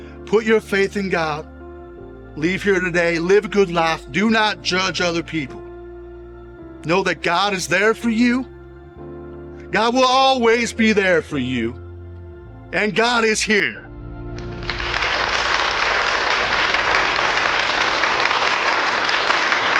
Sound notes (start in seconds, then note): 14.3 people clapping